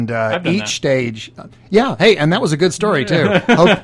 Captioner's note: laughs